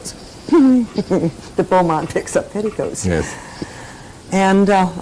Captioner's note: laughs